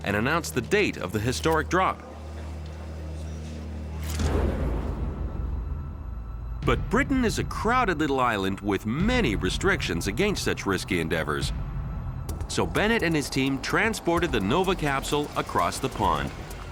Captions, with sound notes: and announced the date of the historic drop. [dramatic music] [camera clicking] [gentle dramatic music] But Britain is a crowded little island with many restrictions against such risky endeavors. So Bennett and his team transported the Nova capsule across the pond.